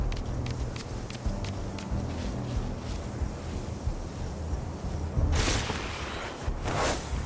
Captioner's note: dramatic music; whooshing